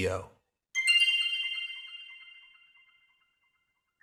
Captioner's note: bells chime